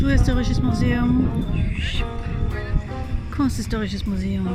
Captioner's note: whoosh